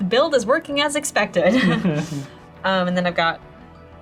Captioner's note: all laugh